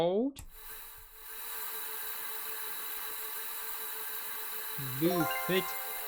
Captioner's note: sandblasting sound